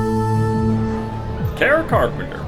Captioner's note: crowd sounds, music